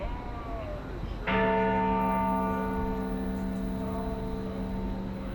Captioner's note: bells toll